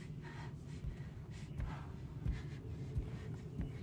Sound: woman pants

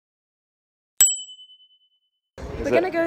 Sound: ding

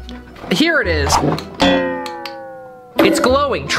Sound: bong sound

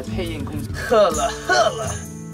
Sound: demonic sounds

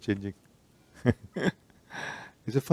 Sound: laughing

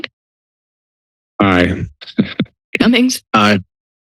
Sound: laugh

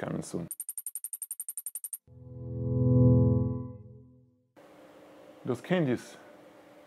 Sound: dramatic music; whirring

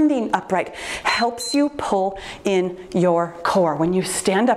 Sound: timer beeps

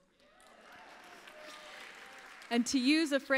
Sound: applause

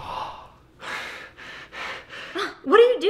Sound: gasps; uneven panting

